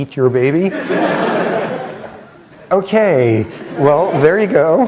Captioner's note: laughter